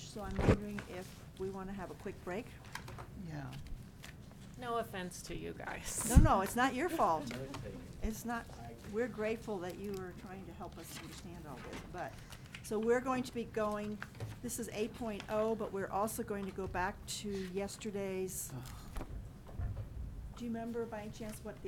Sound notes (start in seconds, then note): none